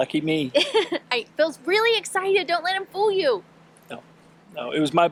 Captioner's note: laughing